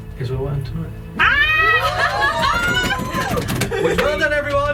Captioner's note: cheering and yelling